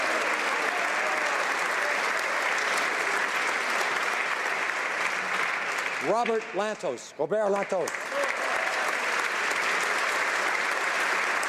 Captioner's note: applause